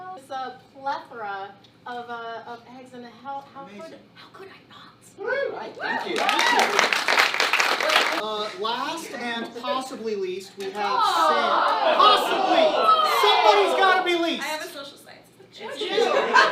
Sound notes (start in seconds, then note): 5.9 applause